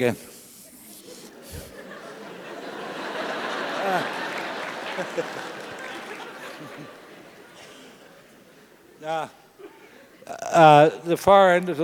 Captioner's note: laugh